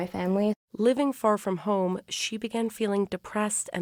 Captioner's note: voice-over